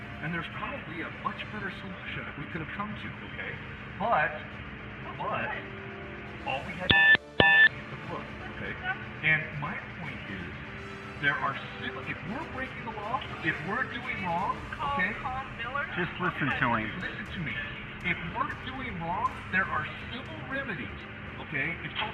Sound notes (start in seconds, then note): 6.8 beep beep